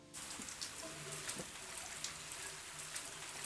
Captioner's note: water runs